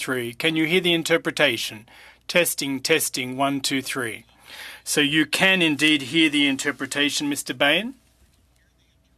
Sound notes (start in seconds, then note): 4.6 speaking french